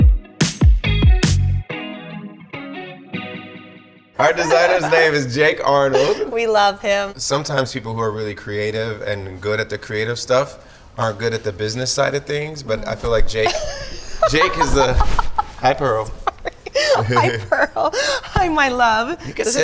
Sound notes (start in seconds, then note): 16.1 Chrissy laughs